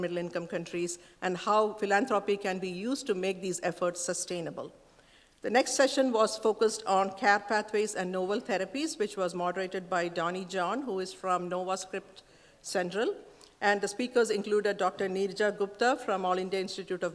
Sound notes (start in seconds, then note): none